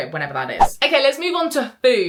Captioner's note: screen fwipping